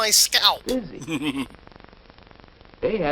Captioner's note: chuckles